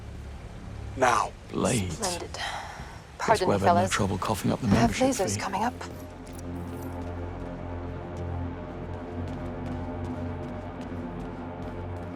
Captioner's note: sighs